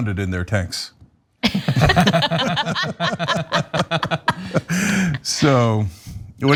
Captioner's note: laugh